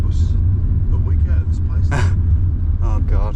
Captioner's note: laughs